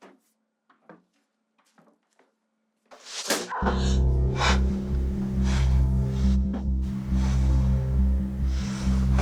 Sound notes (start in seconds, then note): 3.5 suspenseful music; 3.5 Jen gasps